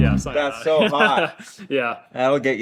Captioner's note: chuckling